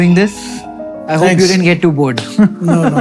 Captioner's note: chuckles